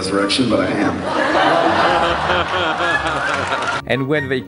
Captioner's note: crowd laughs